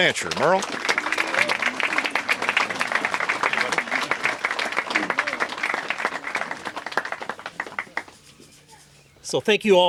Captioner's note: applause